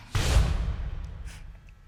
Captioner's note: sighs